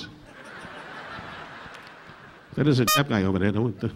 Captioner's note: audience laughing